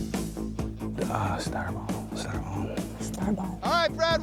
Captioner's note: quietly